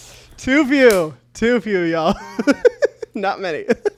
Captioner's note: laughs